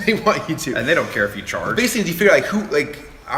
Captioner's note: laughing